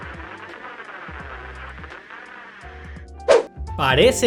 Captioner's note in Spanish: Estática